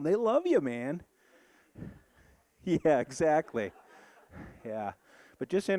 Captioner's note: audience laughing